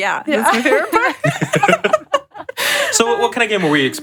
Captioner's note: laughs